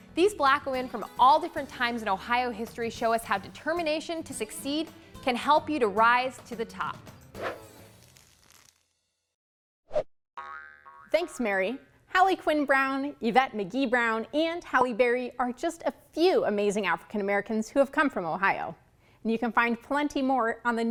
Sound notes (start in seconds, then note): 10.4 spring bouncing